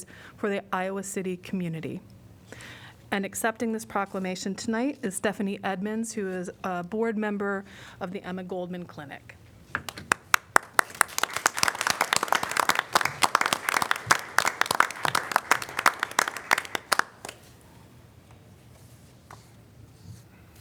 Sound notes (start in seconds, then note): 9.7 applause